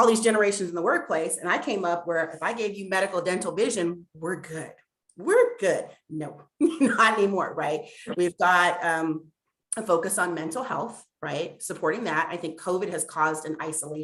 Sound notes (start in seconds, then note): 6.6 laughter